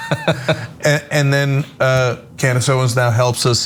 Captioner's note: laugh